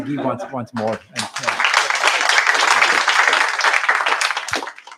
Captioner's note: applause